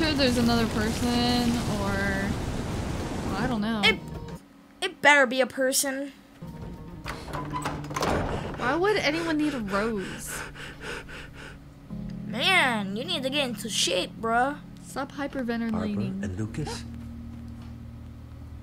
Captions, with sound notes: - I'm sure there's another person or... Well, I don't know. - It better be a person. (door slamming shut) - Why would anyone need a rose? (fast breathing) - Man, you need to get into shape, bro! - Stop hyperventilating.